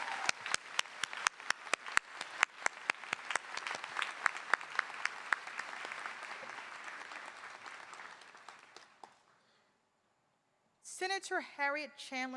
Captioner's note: cheers and applause